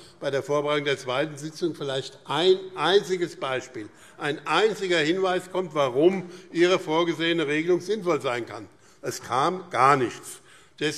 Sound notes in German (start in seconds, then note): none